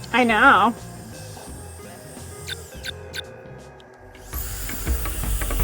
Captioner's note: heat gun whirring